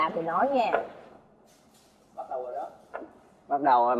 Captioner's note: whispering